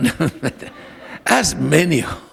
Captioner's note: laughter